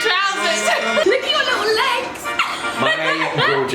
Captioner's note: laughs